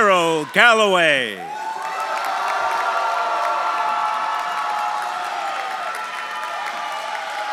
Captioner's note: audience applauding; audience cheering